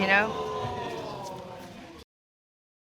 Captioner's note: audience exclaims